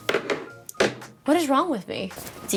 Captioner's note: cellphone knocks